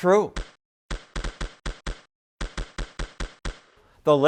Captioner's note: screen popping